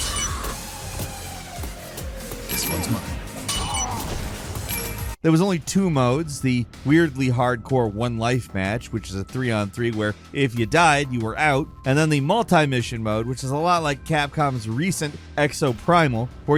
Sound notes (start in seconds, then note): 0.0 zombie screaming; 0.1 tense electronic music; 4.1 zombie grunting